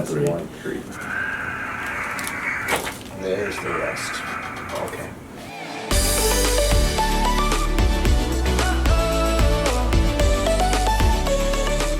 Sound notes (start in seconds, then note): 1.7 bones cracking; 5.6 upbeat music